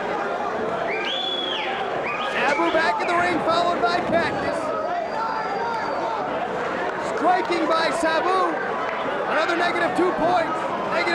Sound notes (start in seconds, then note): 0.8 spectator whistling